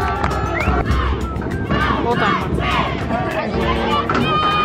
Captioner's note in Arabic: هتاف